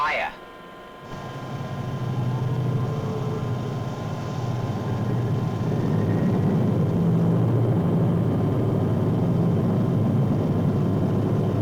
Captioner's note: engines rumbling